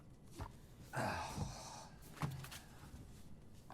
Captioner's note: sighing